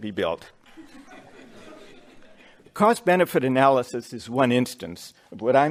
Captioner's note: laughter